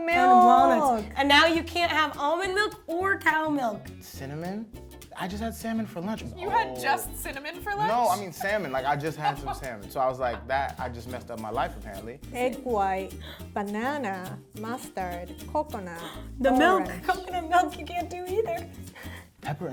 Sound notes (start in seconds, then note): 16.0 gasps